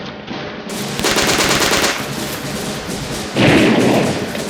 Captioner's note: gunfire rattling